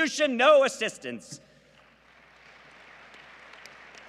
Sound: applause

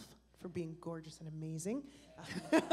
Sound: laughter and applause

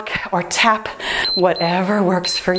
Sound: timer beeps

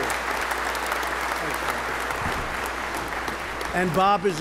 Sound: applause

